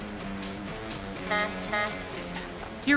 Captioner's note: truck horn blows